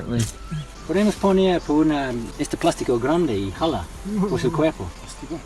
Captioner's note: in Spanish